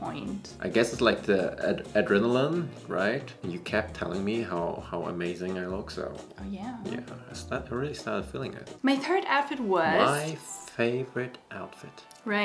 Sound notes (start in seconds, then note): none